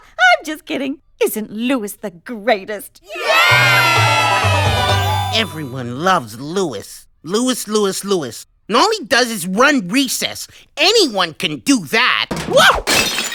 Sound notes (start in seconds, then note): 3.0 cheering